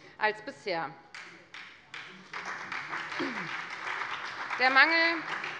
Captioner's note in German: Beifall bei der FDP und der SPD